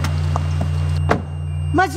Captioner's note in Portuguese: Som de porta do carro